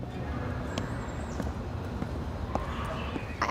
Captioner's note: feet patter